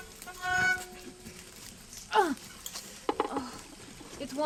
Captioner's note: woman grunts